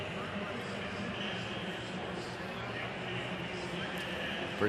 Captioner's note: pa announcement